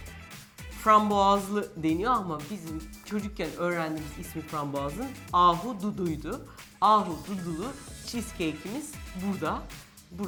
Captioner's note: in Turkish